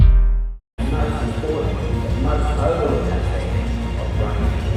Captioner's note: speaking off mic